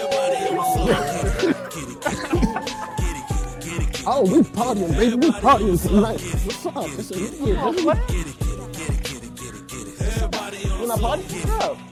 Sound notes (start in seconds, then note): 2.6 friends exclaiming, laughing; 9.6 rap music